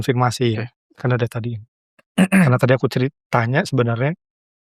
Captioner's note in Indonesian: berdehem